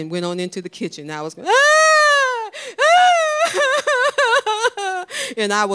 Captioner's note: crying